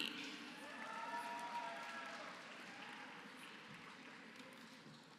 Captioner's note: applause